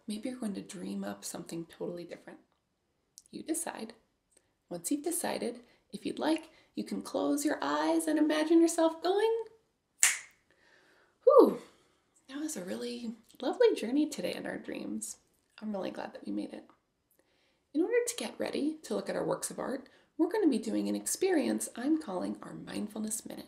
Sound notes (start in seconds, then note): 10.0 snap